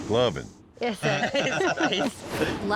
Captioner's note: everyone laughs